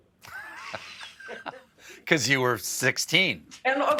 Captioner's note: laughter